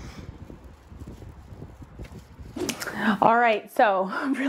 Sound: wind claps

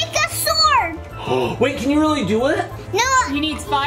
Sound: gasps

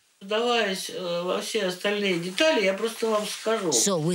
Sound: speaking Russian

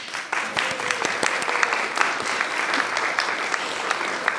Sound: audience applauds

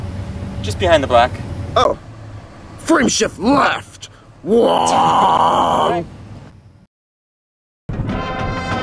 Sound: vocalizes

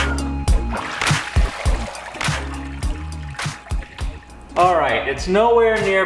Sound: water splashing

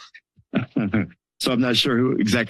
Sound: chuckles

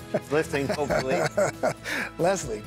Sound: laughs

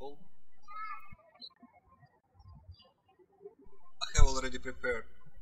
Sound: birds chirping

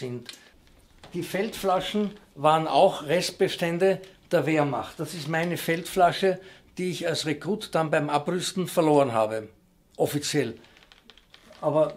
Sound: German

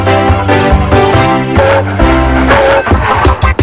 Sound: train whistle

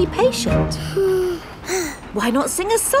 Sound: both sigh

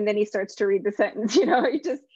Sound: chuckles

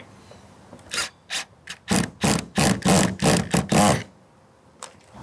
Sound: drill machine drilling

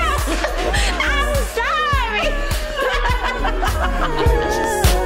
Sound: laughing

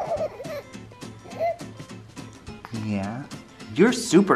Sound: coos

